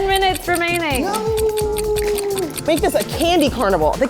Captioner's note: clock ticking